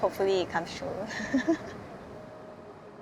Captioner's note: laughs